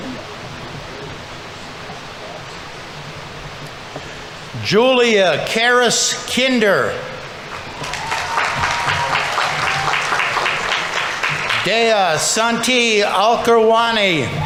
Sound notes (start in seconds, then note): 7.5 audience applauding; 7.5 audience members cheering